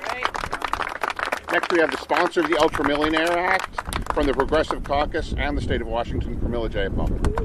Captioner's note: applause